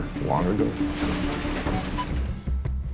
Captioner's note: beeping